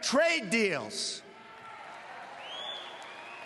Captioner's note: cheers, applause